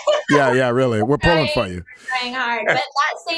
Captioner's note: both laughing